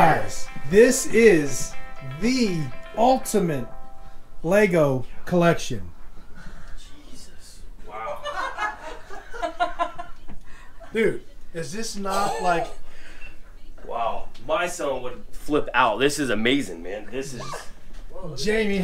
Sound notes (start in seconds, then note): 8.0 laughs